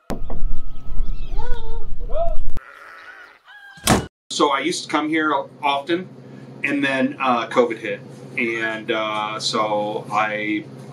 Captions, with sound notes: - Hello. - Hello. (cow moos) So I used to come here often, and then COVID hit, and so I,